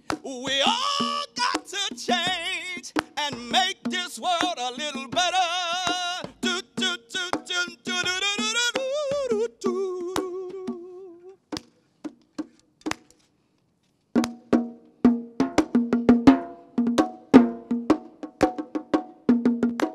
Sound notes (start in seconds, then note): 10.8 clapping; 14.1 drum playing